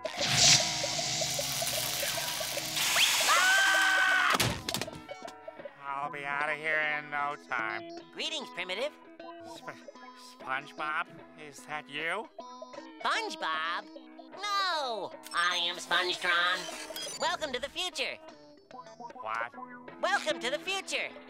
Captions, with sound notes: [screaming] I'll be out of here in no time. Greetings, primitive. Sp... SpongeBob, is that you? SpongeBob? No, I am SpongeTron. Welcome to the future. - What? - Welcome to the future.